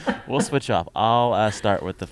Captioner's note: laughter